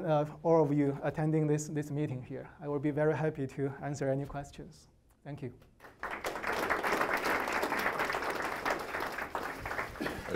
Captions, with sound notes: all of you attending this meeting here. I will be very happy to answer any questions. - Thank you. (audience applauding)